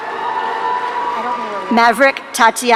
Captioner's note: audience cheering